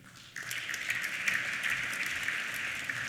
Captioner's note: applause